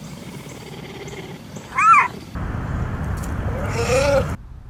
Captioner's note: puma growling and roaring; pumas roaring